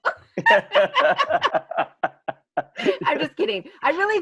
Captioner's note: both laughing